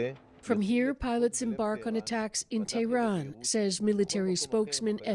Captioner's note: speaking alternate language